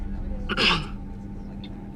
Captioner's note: clears throat